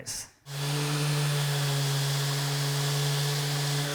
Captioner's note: sander whizzing